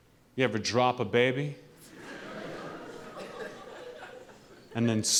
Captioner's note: audience laughing